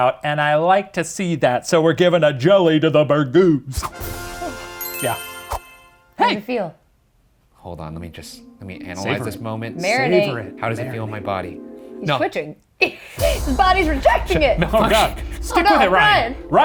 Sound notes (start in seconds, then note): 4.0 triumphant music; 13.1 dramatic music; 13.4 laughs